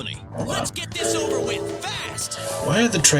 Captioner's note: train whistle